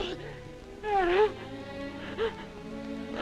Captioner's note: crying